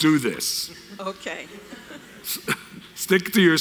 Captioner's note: laughs